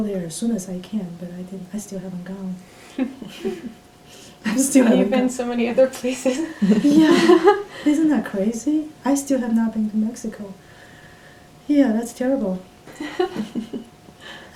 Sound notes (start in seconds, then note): 3.0 all laugh; 6.2 laughs